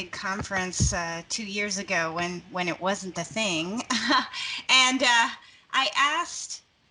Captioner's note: laughing